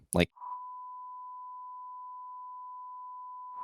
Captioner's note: beep